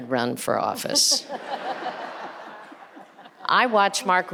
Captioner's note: audience and panelists laughing